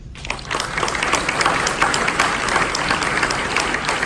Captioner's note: audience applause